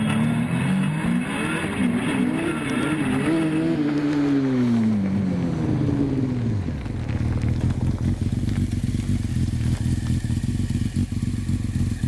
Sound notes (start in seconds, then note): 0.0 engine revving; 0.9 engine turns off